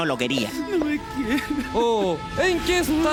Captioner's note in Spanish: sobbing